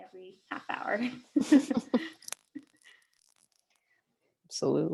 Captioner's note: chuckles